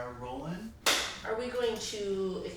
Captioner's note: slate clap